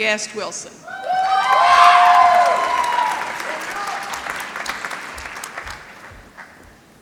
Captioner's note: applause